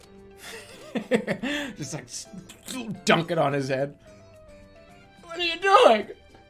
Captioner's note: bursts out laughing